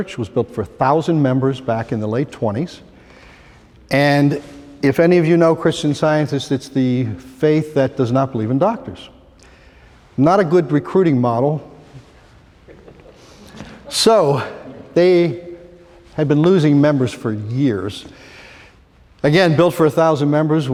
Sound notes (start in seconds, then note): 12.7 laughter